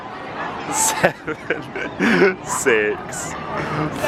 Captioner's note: laughs